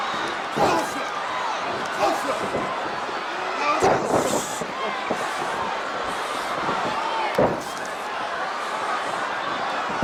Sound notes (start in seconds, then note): 0.6 Hogan grunting